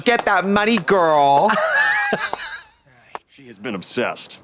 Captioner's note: Katya tee-hees